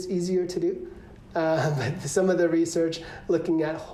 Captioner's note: laughter